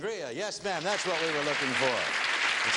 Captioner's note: audience clapping